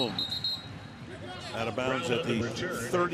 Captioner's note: whistles